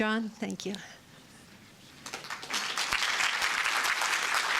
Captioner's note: applause